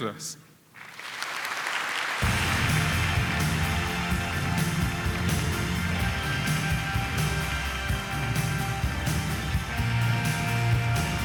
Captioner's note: applause